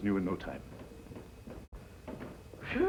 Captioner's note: stairs creaking